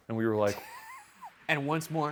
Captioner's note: laughs